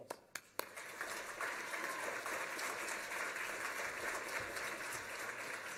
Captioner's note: applause